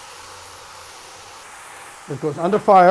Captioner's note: steam hissing